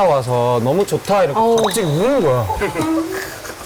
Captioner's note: suddenly starts sobbing